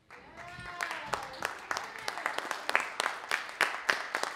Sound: audience applauding

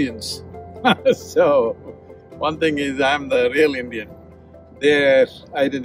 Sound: laughs

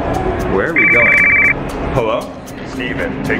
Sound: phone ringing

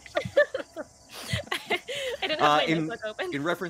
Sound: laughing

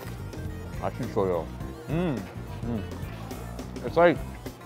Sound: speaking Korean

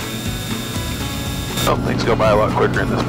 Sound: plane engine buzzing; country music continues

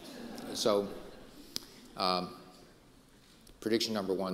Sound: audience laughing

